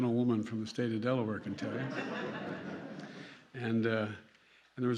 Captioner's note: laughter